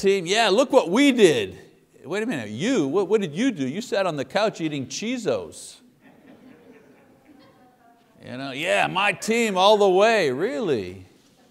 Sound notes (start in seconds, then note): 6.0 congregation laughs